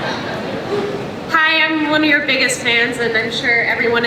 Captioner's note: voiceover